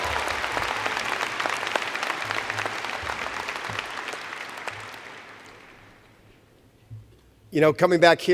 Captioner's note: cheers and Applause